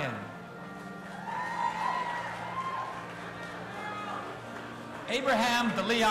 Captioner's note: audience applauding and cheering